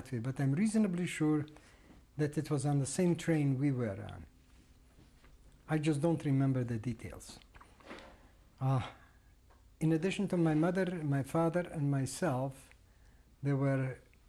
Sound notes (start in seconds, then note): 7.0 pauses for 3 seconds